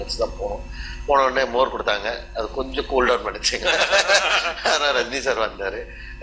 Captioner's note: laughs